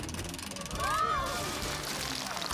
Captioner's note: all Screaming